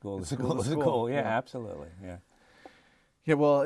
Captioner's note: laughter